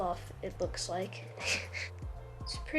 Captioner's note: giggles